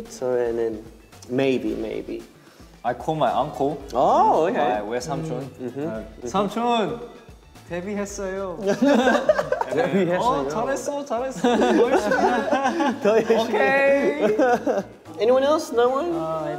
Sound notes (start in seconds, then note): 5.0 speaking in Korean; 9.1 all laughing